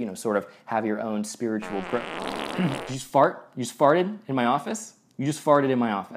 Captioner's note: fart